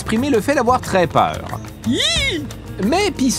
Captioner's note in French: cri aigu